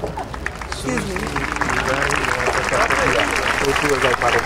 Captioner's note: audience applauding